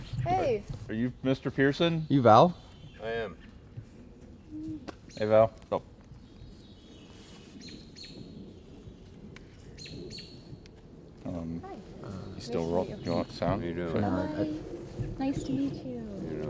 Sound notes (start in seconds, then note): 6.4 canto de pájaros